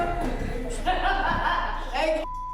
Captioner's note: laughing